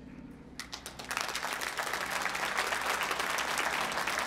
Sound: applause

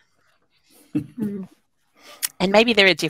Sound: laughing

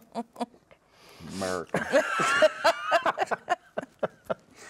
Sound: everyone laughs

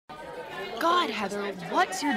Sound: loud school chatter

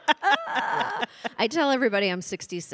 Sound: panelists laughing

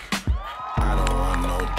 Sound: audience cheering

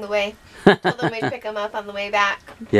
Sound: laughs

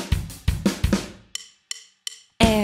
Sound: high pitched voice

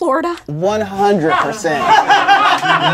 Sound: laughter

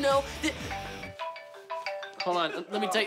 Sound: phone chiming

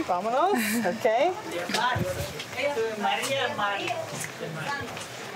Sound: speaking foreign language

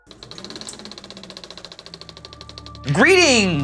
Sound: creaking noise

